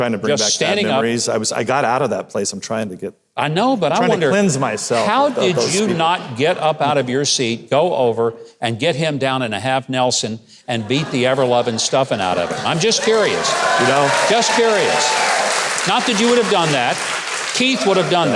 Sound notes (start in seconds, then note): 12.1 crowd cheering